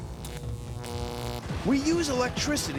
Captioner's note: <i> electrical buzzing</i>